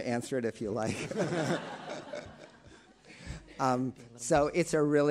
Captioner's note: attendees laughing